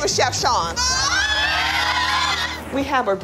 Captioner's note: screaming